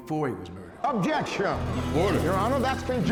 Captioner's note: people murmur loudly